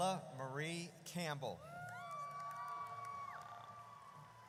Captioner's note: audience cheers